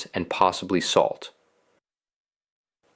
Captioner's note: pause